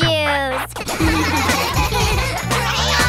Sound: laughing

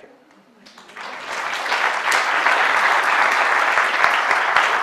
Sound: applause

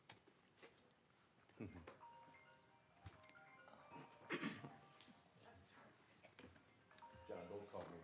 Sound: phone ringing

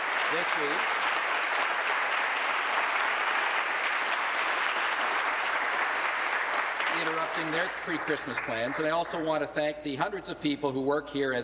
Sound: applause

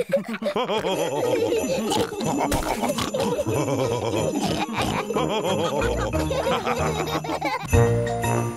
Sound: laughs

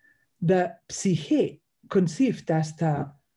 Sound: speaks in Greek

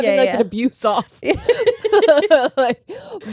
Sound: both laugh

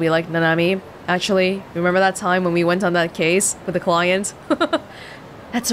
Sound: chuckles

